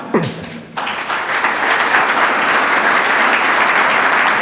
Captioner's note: audience applauds; audience laughs